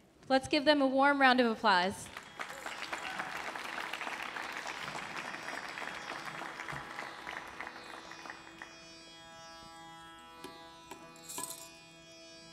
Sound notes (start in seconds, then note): 2.0 audience applauds; 4.3 light tranquil music